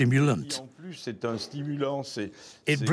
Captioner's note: speaking in foreign language